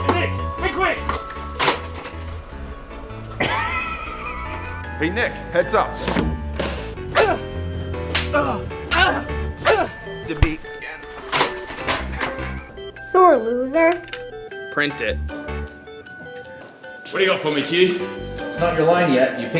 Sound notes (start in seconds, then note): 1.5 laughing; 8.0 slapping